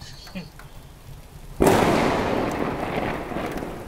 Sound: thunder clap

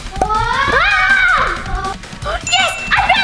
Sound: screaming

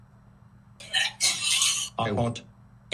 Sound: barfing

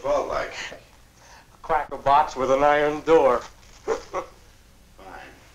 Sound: laughs

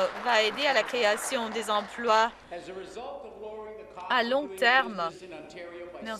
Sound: some Applause

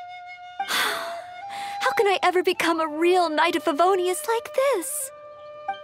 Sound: sigh

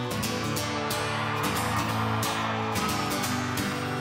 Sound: audience cheers

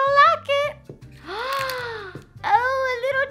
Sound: gasp

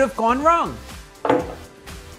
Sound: bang

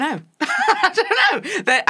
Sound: laughs

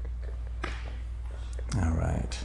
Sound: hands slap

